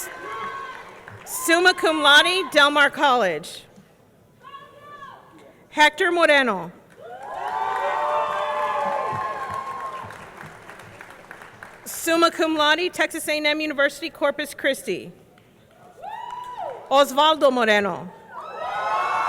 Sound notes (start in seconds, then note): 8.5 audience cheering; 8.5 audience clapping